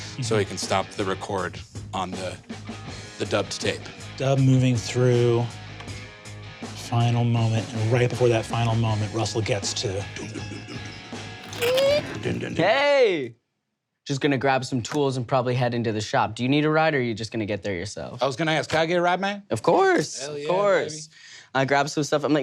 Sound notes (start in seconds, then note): 10.3 mimics rock song; 11.4 mimics door creaking